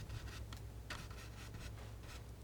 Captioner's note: scratching